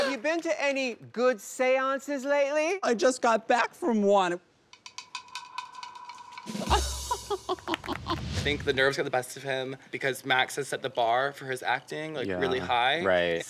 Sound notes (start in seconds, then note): 0.0 laughs; 6.6 laughs; 7.6 light applause